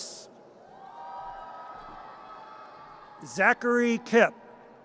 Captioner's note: audience cheers